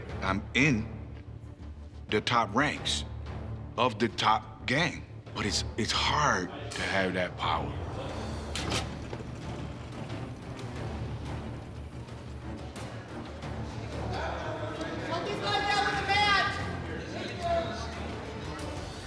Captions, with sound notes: I'm in the top ranks of the top gang. But it's-- it's hard to have that power. [click] [dramatic music]